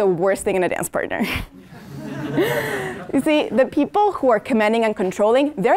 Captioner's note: laugh